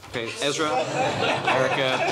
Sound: laughter

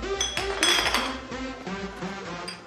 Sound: bottles rattling

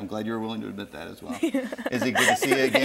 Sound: giggling

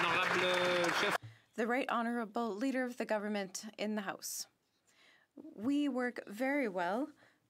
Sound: some Applause

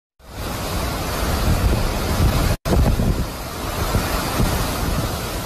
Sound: wind roaring

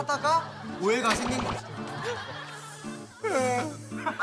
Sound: commotion

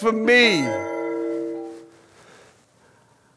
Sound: alarm stops

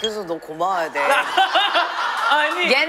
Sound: laughing

